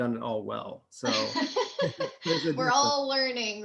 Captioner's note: both laughing